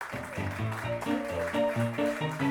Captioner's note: audience clapping; ragtime piano music